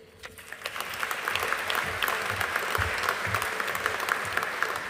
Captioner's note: audience applauding